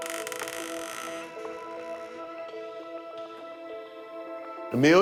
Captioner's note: creaking